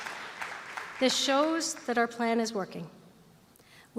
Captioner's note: applause